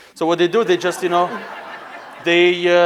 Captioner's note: laughing